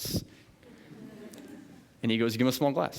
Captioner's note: chuckling